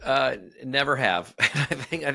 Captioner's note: chuckles